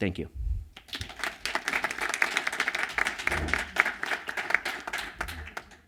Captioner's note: applause